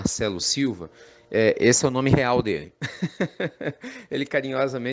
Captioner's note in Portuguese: Risos